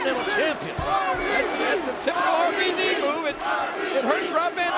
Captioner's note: crowd chanting